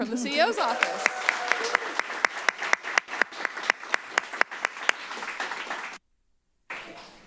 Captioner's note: applause